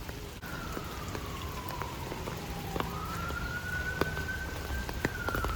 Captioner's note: rain asmr ft. city noises